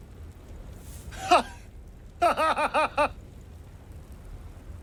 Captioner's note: laughing